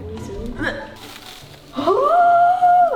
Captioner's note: singing indistinctly; plastic rustling